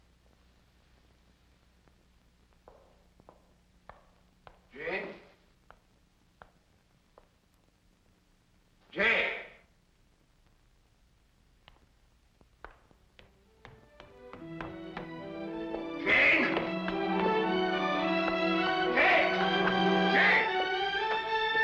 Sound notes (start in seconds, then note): 14.1 footsteps running up stairs; 14.2 suspenseful music; 17.4 dramatic music; 21.4 dramatic music